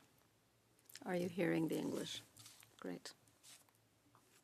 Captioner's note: speaking French